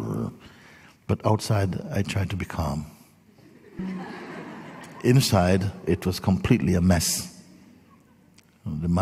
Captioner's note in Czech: smích